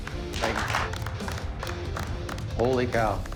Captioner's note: applause